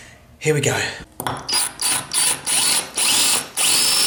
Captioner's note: drilling